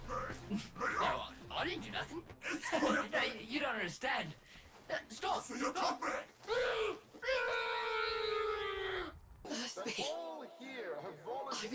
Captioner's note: muffled screams